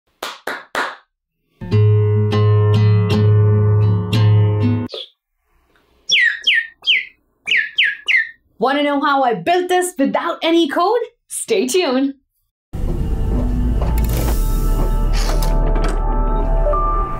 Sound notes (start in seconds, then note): 0.1 hand clapping; 1.6 guitar strumming; 6.0 chirping